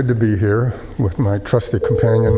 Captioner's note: phone ringing